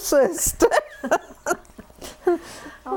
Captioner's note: laughter